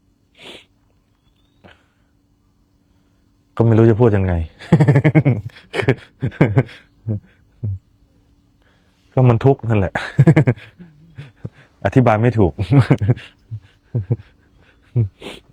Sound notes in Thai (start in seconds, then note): 0.4 เสียงสูดหายใจ; 4.5 เสียงหัวเราะ; 9.4 เสียงหัวเราะ